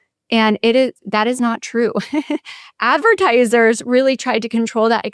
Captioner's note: laughs